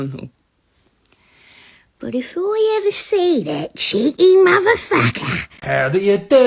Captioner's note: thick british accent